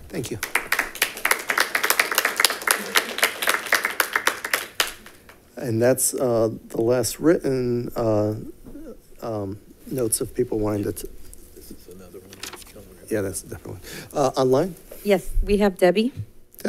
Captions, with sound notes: - Thank you. (congregation claps) And that's the last written notes of people wanting to. - This is another one. - Yeah, that's a different one. Online? - Yes, we have Debbie.